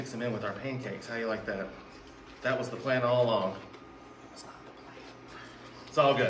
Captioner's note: whispers